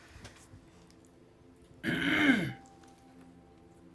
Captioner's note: clears throat